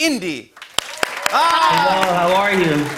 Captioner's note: cheers and applause